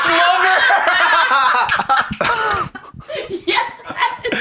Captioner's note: laugh; huffs indignantly; laughing